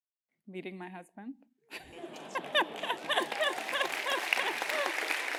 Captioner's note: laugh; applause